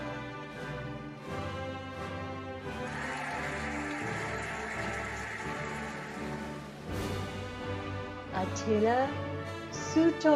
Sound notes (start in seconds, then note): 2.6 cheering and applauding